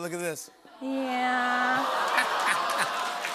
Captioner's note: audience awws; laughs